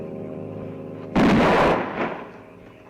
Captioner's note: gunshot; frogs croak and crickets chirp